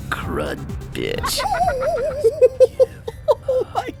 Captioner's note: gleeful laughter